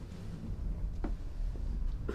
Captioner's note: deep rumbling sound